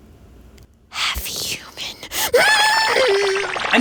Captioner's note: shrieks